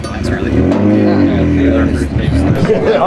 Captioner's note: engine revving